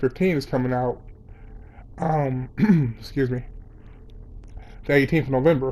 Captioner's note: clears throat